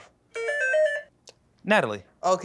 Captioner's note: buzzer